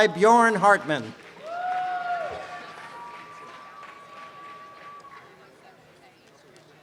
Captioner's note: applause and cheering